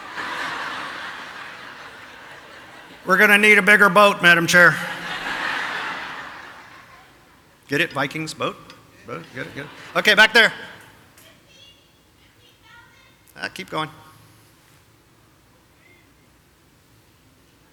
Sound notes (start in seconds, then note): 0.0 audience laughing